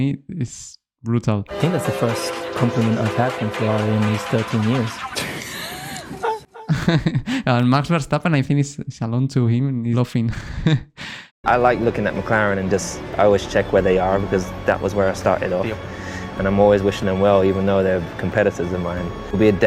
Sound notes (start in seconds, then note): 5.2 Verstappen laughing